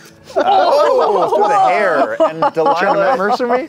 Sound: laughter

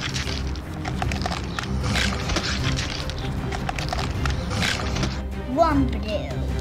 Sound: high intensity music; joints crackling; foot stepping; teeth grinding

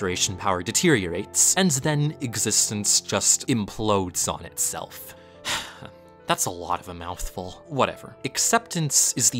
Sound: sigh

